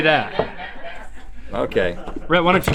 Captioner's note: laughing